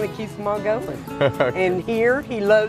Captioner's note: laughs